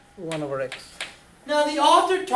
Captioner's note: voiceover